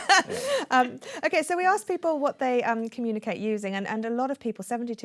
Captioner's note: laughs